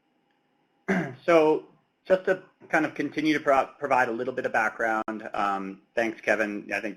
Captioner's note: clears throat